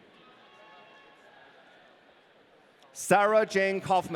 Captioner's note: audience cheering